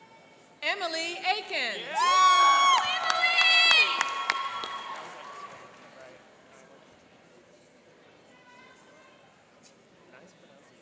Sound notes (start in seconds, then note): 1.8 cheering and applauding